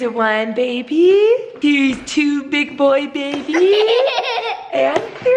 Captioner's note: giggling